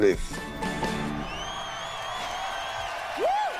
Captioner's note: cheers and applause